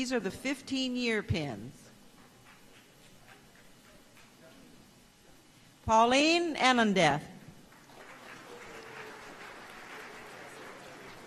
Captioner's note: applause